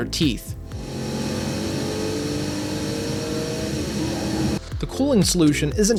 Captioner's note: high pitched fan whine